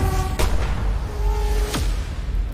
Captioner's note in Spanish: Disparo